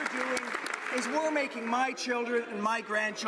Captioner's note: some Applause